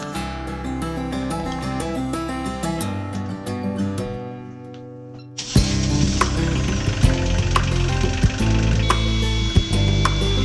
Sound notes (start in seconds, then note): 5.4 engine rumbles